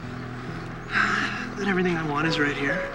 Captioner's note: sighs